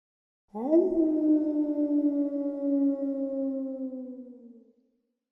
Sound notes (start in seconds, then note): 0.5 wolf howling